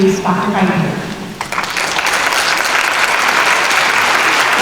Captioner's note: applause